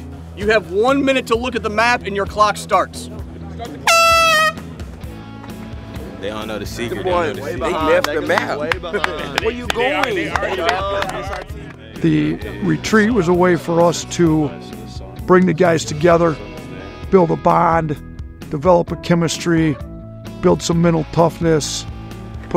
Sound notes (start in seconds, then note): 3.8 horn blows